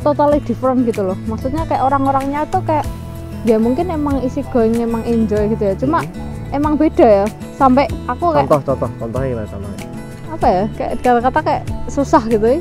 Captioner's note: chuckles